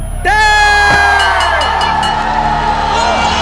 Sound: bell ringing; all cheering

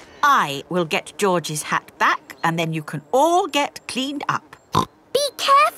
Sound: snorts

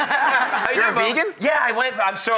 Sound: laughter

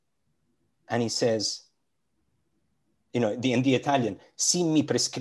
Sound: speaks in Italian

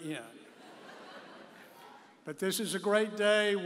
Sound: audience laughing

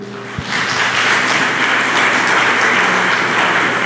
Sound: applause

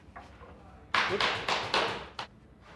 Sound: remote hammering

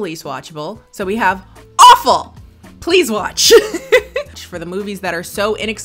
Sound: laughs

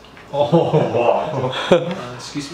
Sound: laugh

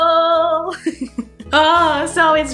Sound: laughing

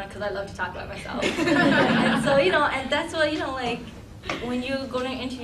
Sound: laughing

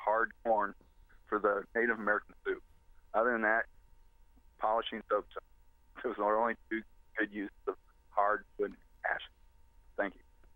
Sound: audio cutting out

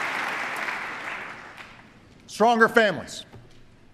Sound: applause

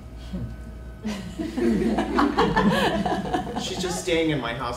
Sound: audience members laughs

